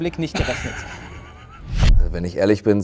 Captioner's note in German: Lachen